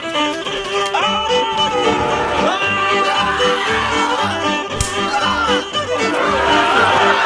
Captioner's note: shouting and hitting